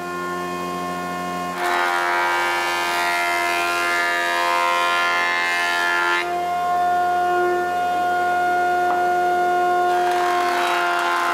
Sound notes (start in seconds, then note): 3.0 machine noise